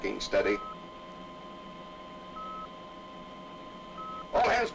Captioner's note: beeping sound